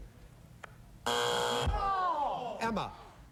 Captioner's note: buzzer